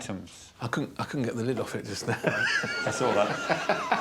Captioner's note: chuckles